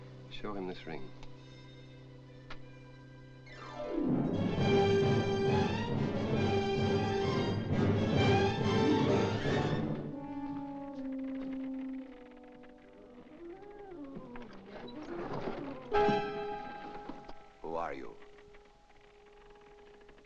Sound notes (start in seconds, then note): 3.5 suspenseful music; 10.0 ominous music; 14.3 door clatters open; 15.8 dramatic music